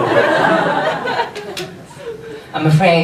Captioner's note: audience laughs